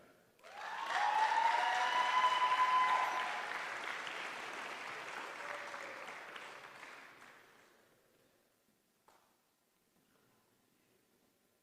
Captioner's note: applause